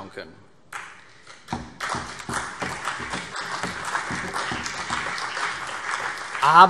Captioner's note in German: Beifall CDU und vereinzelt BÜNDNIS 90/DIE GRÜNEN